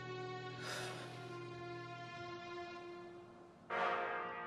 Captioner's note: Eleanor sighs; dramatic music